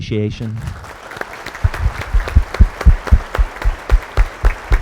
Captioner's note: audience applauds